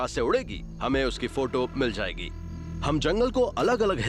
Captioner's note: narrating